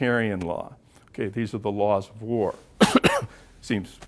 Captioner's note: cough